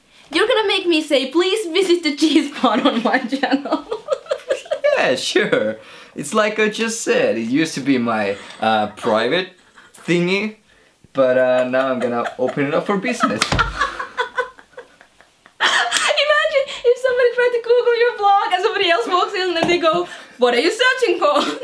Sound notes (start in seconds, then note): 4.1 laughing; 13.4 laughing hard